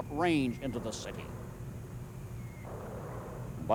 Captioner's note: mortar fire whistling, booming